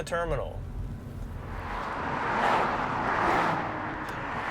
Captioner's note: cars whooshing